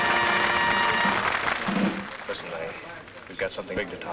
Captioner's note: patrons clap